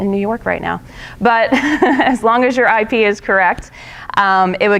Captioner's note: laughing